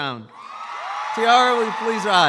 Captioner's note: audience applauds